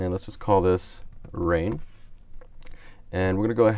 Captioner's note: types on keyboard